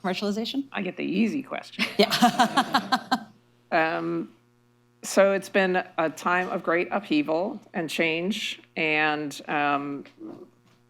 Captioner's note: laughter